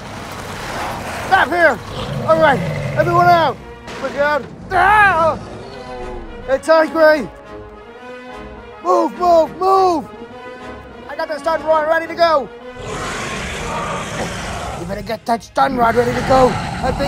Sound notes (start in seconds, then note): 3.8 crash Sound; 12.7 metriacanthosaurus Sounds